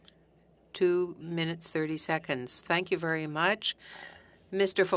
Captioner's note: speaking French